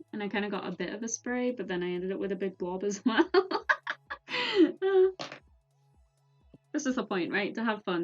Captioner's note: laughs